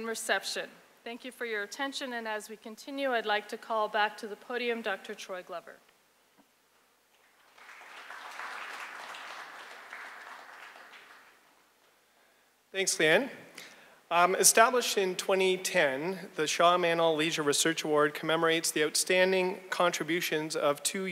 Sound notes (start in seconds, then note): 7.2 audience applause